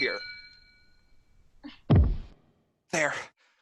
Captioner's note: thud of wood